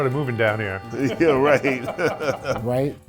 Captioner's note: laughs